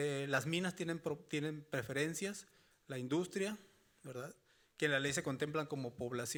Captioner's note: speaking Spanish continues